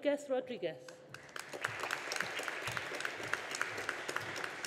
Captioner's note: audience applauding